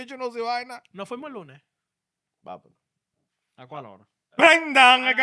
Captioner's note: speaking In Foreign Language